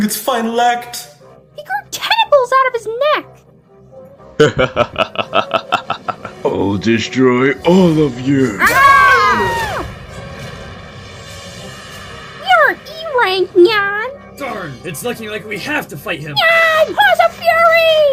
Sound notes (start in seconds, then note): 4.3 Zazel laughs maliciously; 8.5 all yell